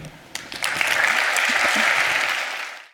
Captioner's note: applause